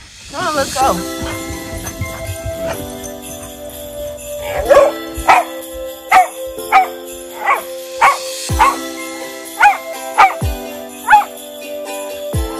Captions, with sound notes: Come on let's go. -(Chloe barking)